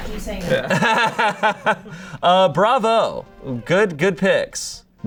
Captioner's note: laughs